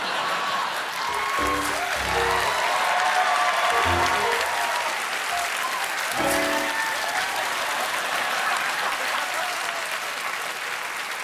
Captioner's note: cheers and applause; piano riff